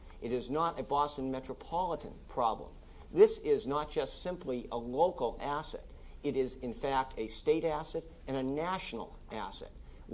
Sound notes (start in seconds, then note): none